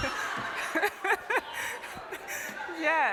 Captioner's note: laughter